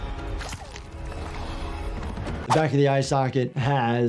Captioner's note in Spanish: los dedos chapotean